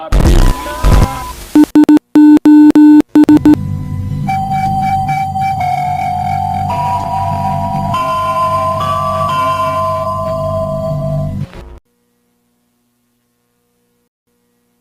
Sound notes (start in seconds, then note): 0.0 TV Static; 3.1 EAS Alarm